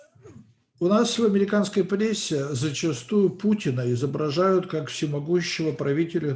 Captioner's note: translator speaking Russian language